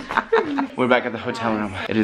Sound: laughs

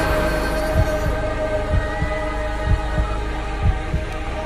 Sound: heart beating

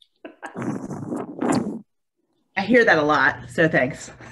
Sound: laughing

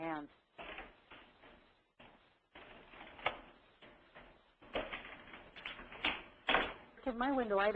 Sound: pause in Seminar and Background Sounds

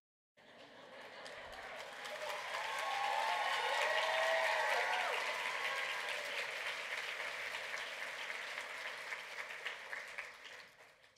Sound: laughter and clapping

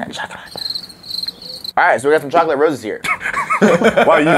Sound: weird voice; crickets; laughing mixed with wheezing

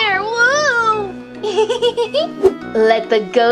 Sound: Vampirina giggling

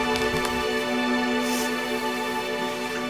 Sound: sniffles

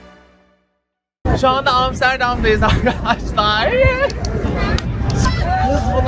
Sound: laughs

